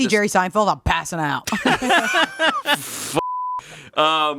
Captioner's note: all laughing; beeping